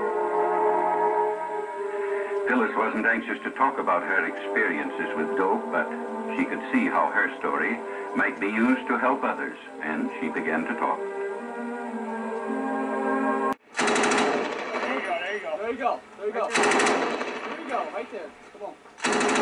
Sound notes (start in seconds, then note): 13.6 rapid gun fire